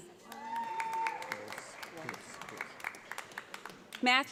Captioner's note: audience applauds